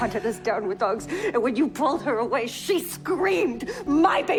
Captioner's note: shouting